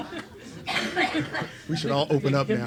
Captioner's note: laughs